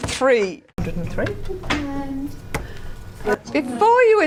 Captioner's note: audience chatter